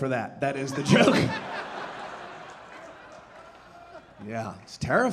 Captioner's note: audience laughing